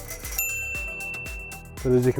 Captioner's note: ding